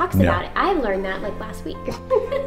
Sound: laughs

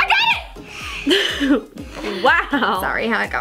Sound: laughs

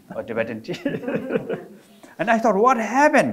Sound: all laughing

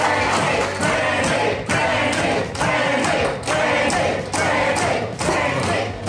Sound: crowd

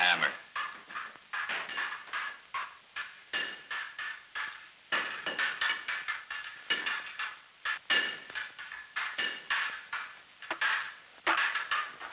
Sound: banging sounds

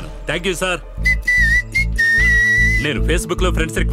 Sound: whistles

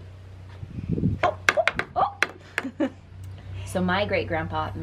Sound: laughs

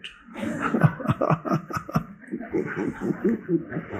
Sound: laughter

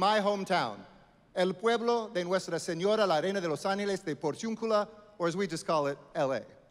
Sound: speaking Spanish; foreign language

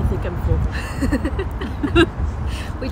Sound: laughs

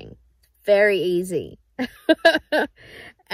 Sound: chuckles

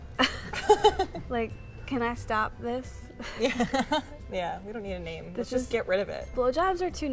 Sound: laughter; laughter

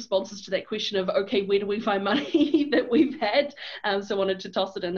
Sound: laughs

